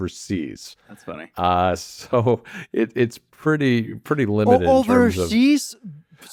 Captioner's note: laughs